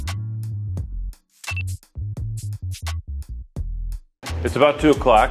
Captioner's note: timer beeps